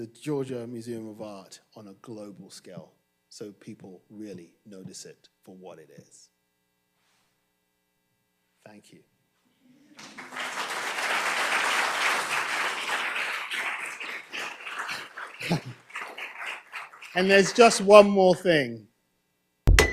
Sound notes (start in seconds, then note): 9.9 audience applauding; 15.6 chuckles